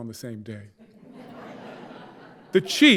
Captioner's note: audience laughing